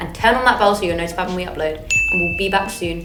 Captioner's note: bell dings